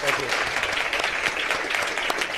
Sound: applause

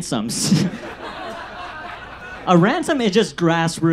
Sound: audience laughs

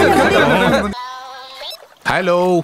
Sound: phone rings

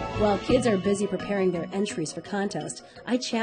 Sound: voiceover

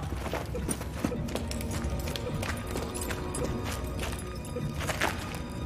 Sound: blipping continues; scary music

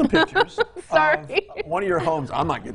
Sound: laughs

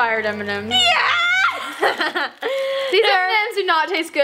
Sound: laughing

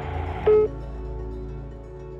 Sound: voicemail beeps

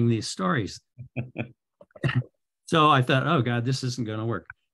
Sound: chuckles; laughs

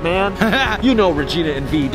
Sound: laughing

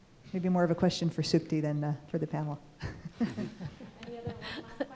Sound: laughs

